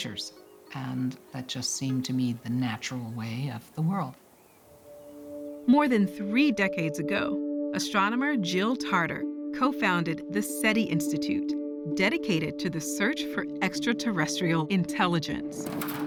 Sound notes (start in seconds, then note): none